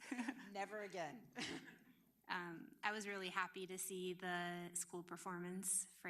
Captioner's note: laughter